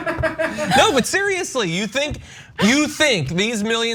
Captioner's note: laugh